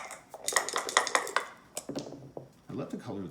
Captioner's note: dice shaking